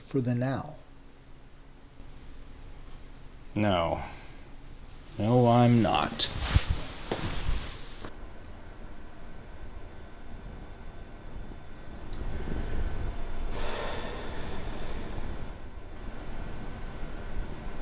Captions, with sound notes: for the now? - No, no, I'm not. [footsteps] [sigh]